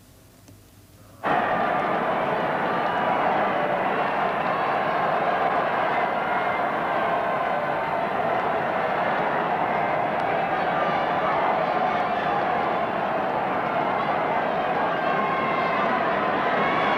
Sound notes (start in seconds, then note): 1.4 roar of a crowd